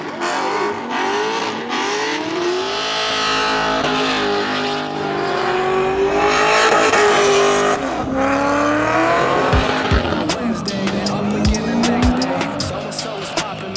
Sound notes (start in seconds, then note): 5.7 engine roaring